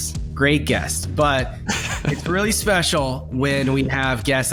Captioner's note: guest chuckles